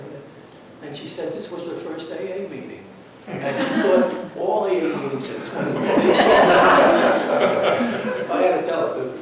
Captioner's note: laughter